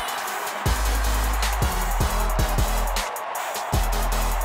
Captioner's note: cheering; energetic electronic music